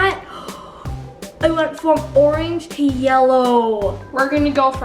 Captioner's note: gasps